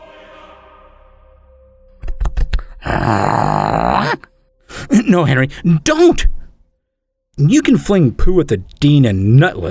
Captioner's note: running footsteps, Henry snarling